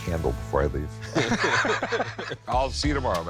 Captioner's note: both laugh